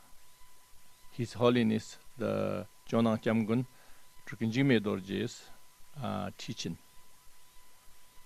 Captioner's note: tibetan